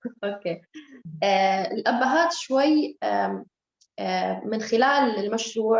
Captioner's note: speaking Arabic